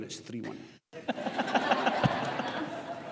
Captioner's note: audience laughs